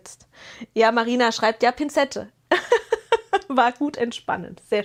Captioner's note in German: gelächter